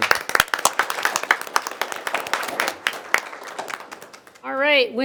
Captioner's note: attendees applauding